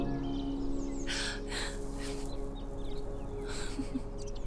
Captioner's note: Evelyn gasping; Evelyn giggling